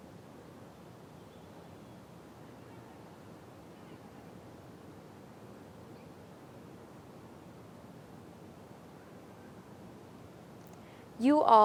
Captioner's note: moment of silence